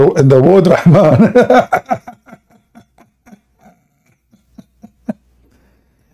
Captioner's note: Ketawa